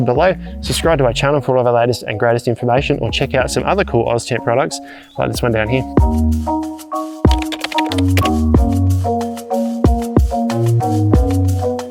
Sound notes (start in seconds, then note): 6.1 inspirational music; 7.2 keyboard clicking